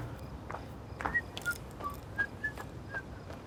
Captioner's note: whistles